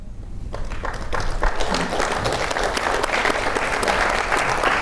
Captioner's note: audience applauds